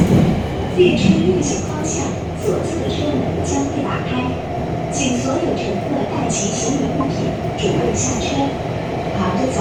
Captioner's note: Regular Mandarin announcement